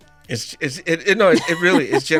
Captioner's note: laughter